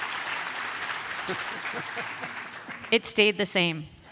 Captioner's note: audience applauds; laughs